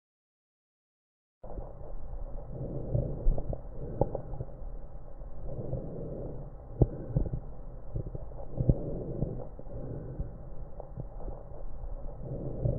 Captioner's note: normal lung Sound